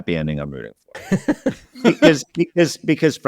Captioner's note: laughing